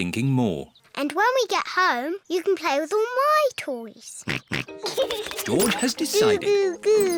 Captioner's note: snorts and giggles